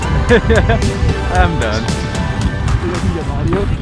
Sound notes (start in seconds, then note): 0.0 laughing